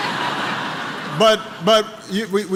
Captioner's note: laughter